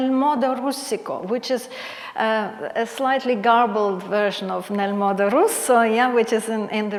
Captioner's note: foreign Language